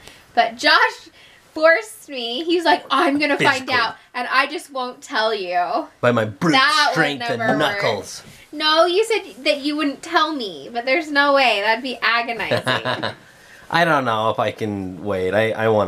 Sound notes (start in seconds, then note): 12.4 laughing